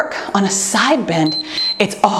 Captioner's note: timer beeps